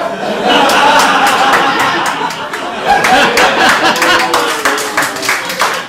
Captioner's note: audience laughs, applauds